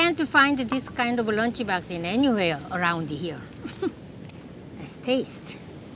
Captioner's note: chuckles